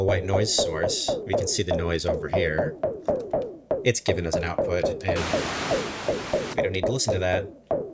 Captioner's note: bssshhhhh